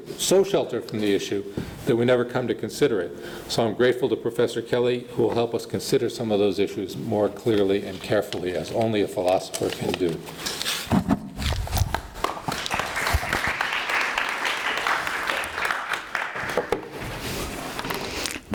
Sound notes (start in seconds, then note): 12.2 audience applauding